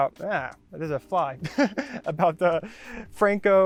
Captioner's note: laughs